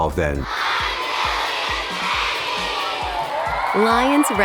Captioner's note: cheering